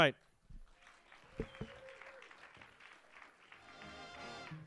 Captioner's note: audience applauds; instrumental music